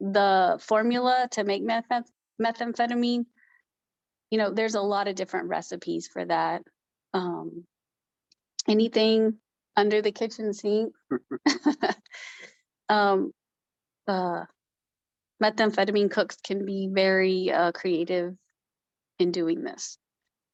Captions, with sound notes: The formula to make methamphetamine, there's a lot of different recipes for that. Anything under the kitchen sink (laughs). Methamphetamine cooks can be very creative in doing this.